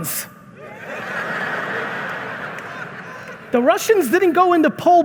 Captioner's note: audience laughing